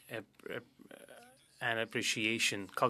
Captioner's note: speaking French